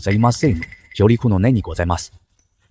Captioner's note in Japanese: none